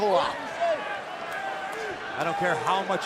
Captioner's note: crowd cheering